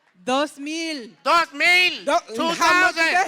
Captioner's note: non-english speech